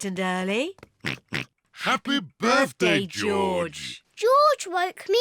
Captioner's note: oinks